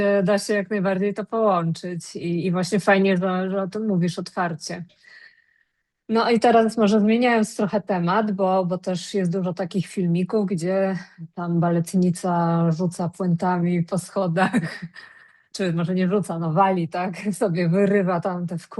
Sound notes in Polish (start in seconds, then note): 14.4 śmiech